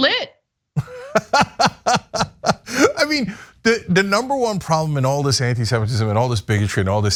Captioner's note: laugh